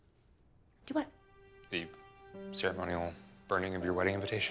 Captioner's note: none